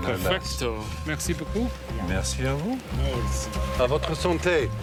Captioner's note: speaking in foreign language